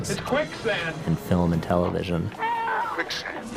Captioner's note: screams